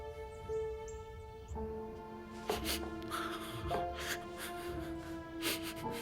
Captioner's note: sobbing